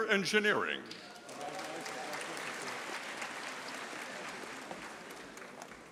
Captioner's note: audience applauding